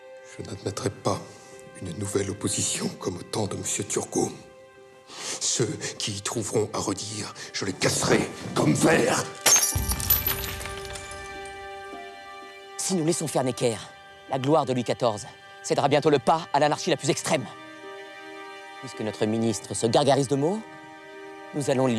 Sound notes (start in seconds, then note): 0.2 Louis XVI speaking in French; 9.4 glass tinkling; 9.7 tense music; 12.9 man speaking in French